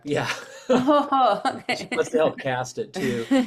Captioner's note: chuckles